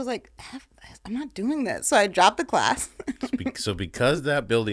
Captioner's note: laughing